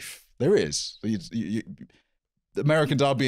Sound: stammering

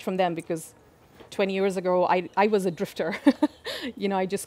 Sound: laughs

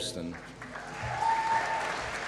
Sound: applause

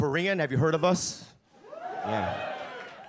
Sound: audience cheer

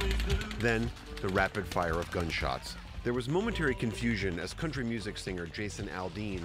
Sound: gunfire

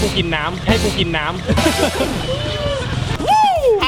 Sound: chuckles

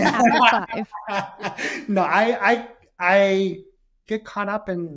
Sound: laughing

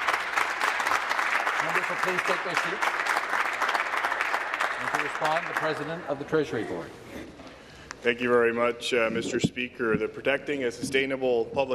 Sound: applause

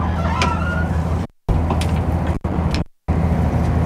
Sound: boat creaks

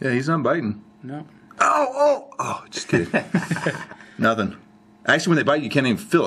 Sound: laughs

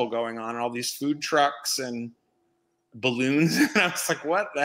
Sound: laughs

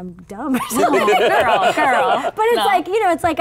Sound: laughing

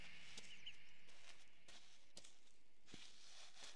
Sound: birds chirping

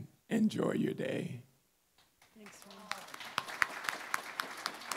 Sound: applause

